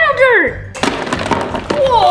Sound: thumping

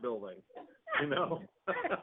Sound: laughter

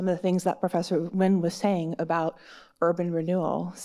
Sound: none

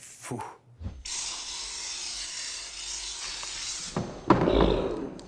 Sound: aerosol spray

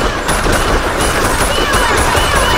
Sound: gun fires in a short, rapid manner several times

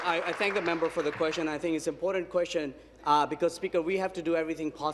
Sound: applause

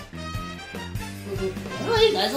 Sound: Luigi hums

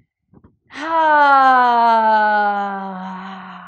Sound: sighs

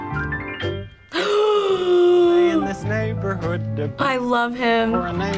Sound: gasps

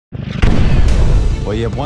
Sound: explosion

